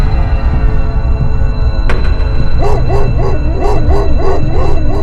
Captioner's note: dogs barking at a distance